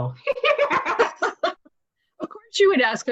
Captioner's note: both laughs